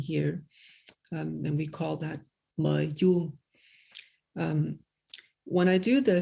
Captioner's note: non-english speech